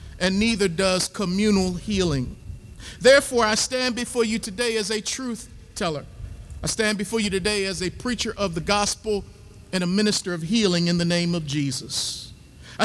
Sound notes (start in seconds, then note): none